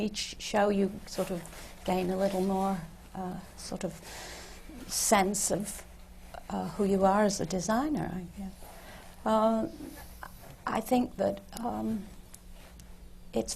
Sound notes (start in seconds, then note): none